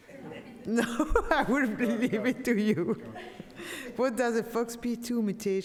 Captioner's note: laughs